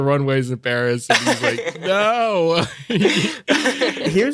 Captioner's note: laughter